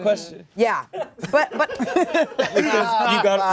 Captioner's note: laughter